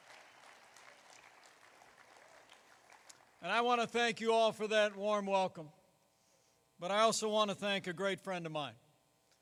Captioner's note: applause